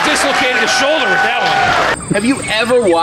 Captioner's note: crowd cheering